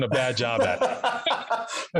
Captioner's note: laughs